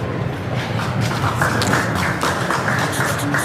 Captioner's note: applause